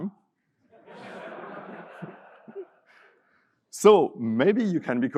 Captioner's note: audience laughing